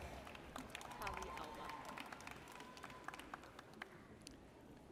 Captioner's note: audience cheers